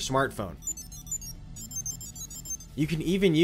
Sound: electronic beeping

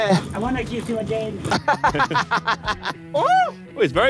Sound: Tobi laughs

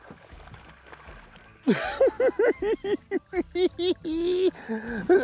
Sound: laughing

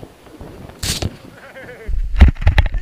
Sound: laughs

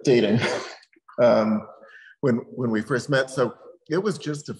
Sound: laughs

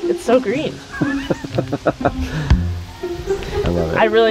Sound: chuckles

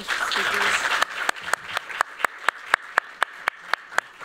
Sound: applause

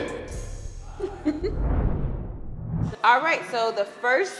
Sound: laugh

